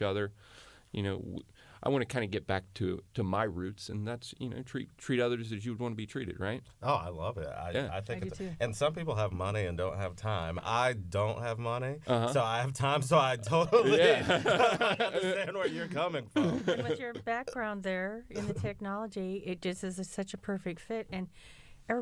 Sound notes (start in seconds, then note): 16.3 laughter